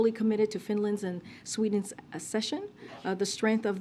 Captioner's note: A reporter sneezes